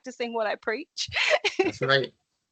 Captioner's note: laughing